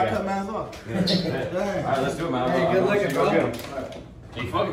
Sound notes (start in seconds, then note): 0.9 laughing